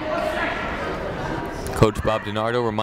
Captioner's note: people shouting in the crowd